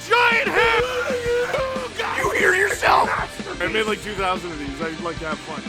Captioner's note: Harry potter screaming; screaming